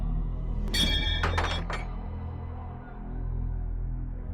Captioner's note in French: clics métalliques